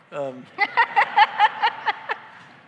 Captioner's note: laughter